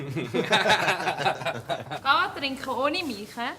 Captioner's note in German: lacht